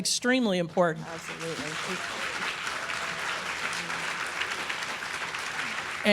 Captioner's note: applause